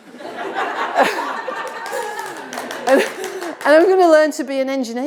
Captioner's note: audience applauding